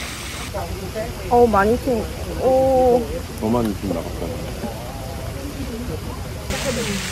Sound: water splashed

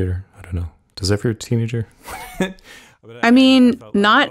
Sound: laughs

